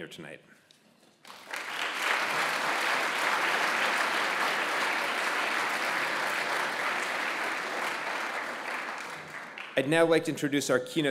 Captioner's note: applause